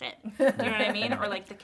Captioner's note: Nikki laughs